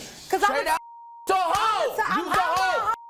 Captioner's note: beep